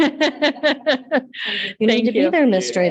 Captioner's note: members laughs